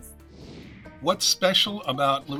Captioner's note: screen whooshing